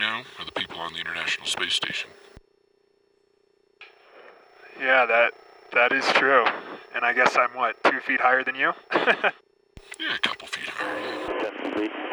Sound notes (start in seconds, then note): 8.8 laughs